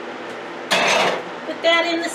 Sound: metals clattering

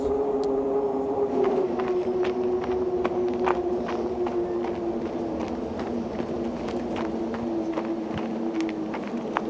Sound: loud footsteps

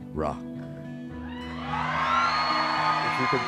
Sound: cheering

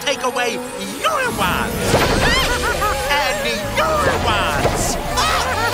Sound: laughing

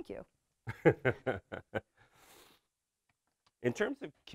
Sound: laughs

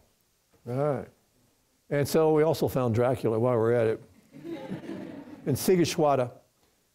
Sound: laughter from the audience

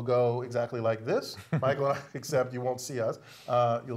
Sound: laugh

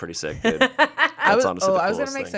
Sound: laughs

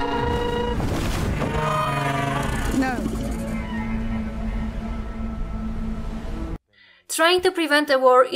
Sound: Syrax roars

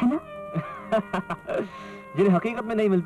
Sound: laughs

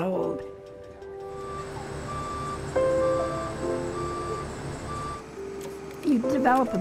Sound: bus backing up

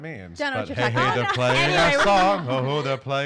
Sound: chattering

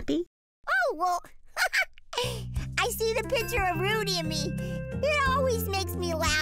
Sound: laughing

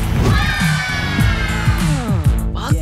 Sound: kids cheering

